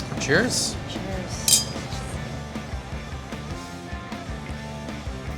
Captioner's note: glass taps